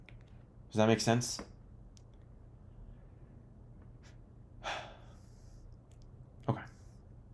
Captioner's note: sigh